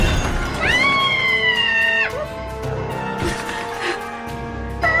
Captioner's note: Barbra screaming; Barbra yelping